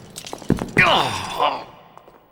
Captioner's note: grunts in pain